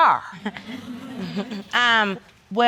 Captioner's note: audience laughs